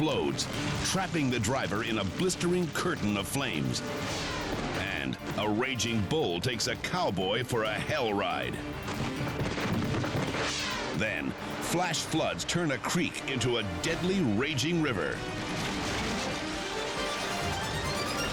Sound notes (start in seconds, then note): 4.0 air whooshes; 10.2 air whooshes; 15.3 house crumbles